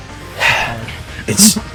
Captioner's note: sigh